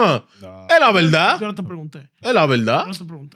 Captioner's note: speaking In Foreign Language